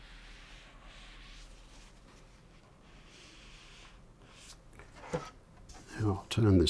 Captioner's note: silence